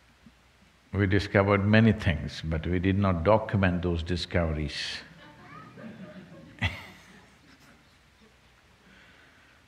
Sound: laughter

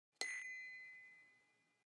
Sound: eyelid pinging

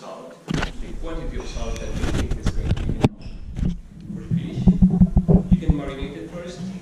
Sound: microphone static

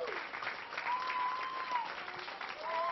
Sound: applause

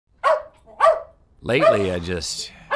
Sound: dog barking

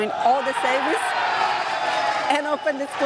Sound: crowd cheering

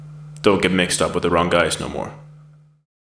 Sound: voiceover

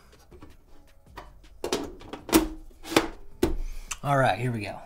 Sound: metal clanking

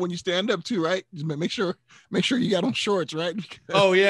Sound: laughing

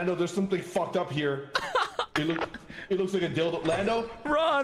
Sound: ah ha hah

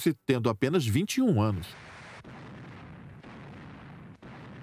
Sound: guns firing

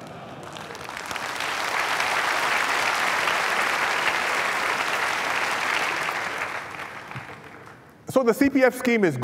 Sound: applause

